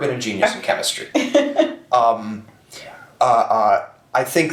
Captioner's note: chuckles